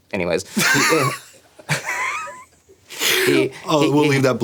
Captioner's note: laughing